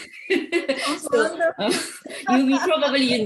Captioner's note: both laughing